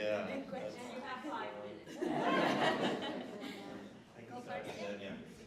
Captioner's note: laughter